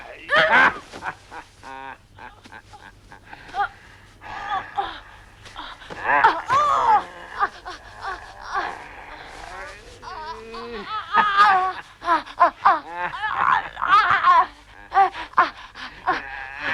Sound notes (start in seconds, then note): 11.0 Hundra groaning; 11.0 Torente laughing